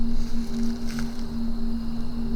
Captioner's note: rustling leaves